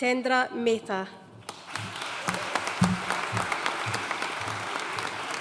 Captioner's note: audience applauding